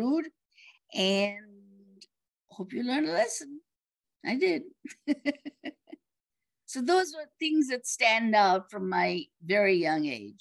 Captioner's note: laughs